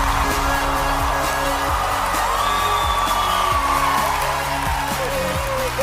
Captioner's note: crowd cheering